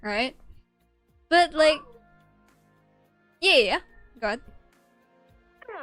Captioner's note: pensive noise